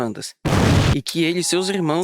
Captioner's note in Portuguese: boom